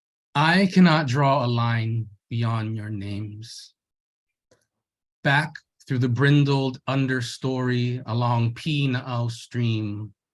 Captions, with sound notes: "I cannot draw a line beyond your names, back through the brindled understory along (speaks in Hawaiian).